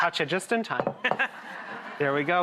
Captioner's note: laughter